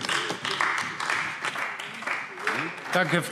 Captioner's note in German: Beifall AfD